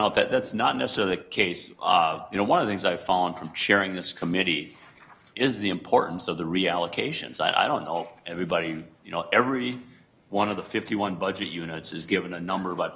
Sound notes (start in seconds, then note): none